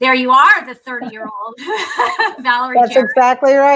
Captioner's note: laughter